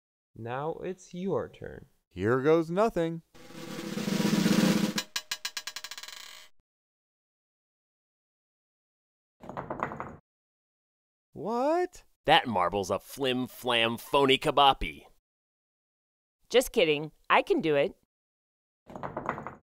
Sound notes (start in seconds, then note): 3.3 drum roll; 4.9 marble rolling; 19.4 marble rolling